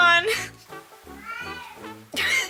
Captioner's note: Lily MREOWS